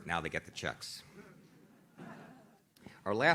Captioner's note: audience laughs